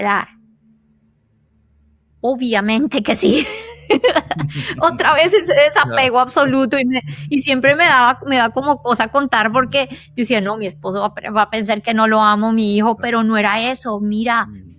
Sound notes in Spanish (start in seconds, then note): 3.3 risas